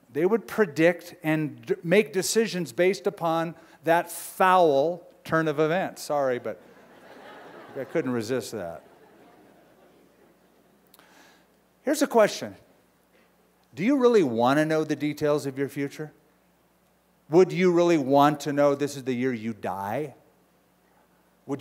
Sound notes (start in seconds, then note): 6.6 laughter